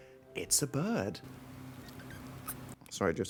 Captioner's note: bird squeaks